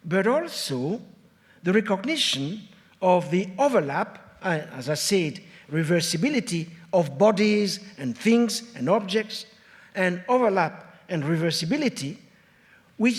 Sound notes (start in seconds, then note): none